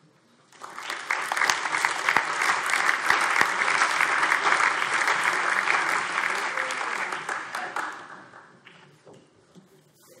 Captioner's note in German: Allgemeiner Beifall